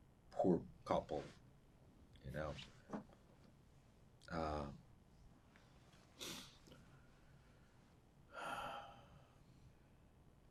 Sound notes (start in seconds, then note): 8.3 sighing